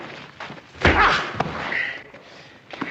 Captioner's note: Marion shouts in pain